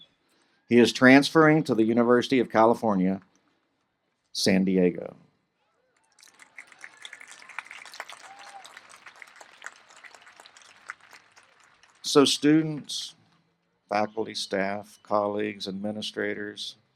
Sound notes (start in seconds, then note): 5.9 applause